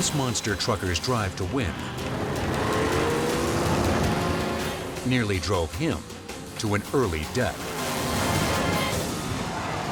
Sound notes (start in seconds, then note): 2.4 engine roars